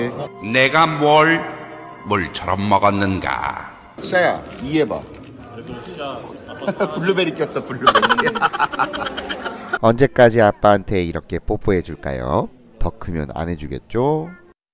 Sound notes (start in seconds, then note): 7.8 laughs